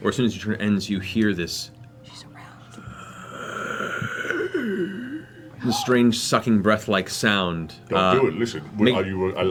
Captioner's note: undead inhale